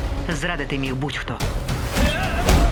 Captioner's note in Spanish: gruñidos